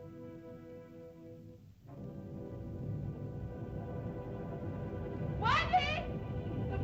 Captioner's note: whimsical music; ominous music; volcano rumbles